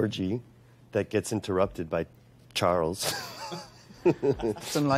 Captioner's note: laughing